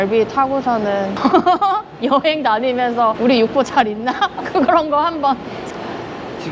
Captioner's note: Laughs